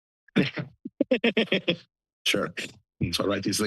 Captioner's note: laughter